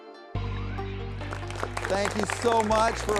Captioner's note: people clapping